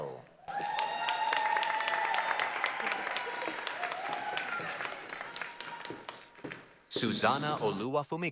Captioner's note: applause, cheering